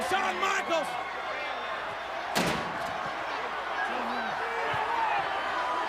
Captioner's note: audience indistinct yelling